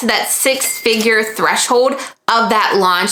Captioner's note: bell chiming